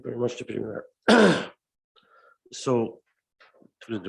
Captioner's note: clears his throat